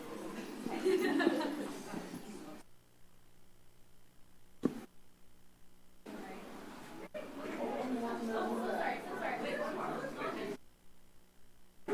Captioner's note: indistinct background chatter